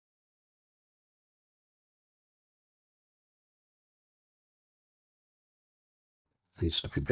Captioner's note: silence